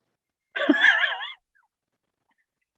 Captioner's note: laughs